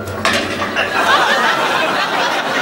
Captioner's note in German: Geklirr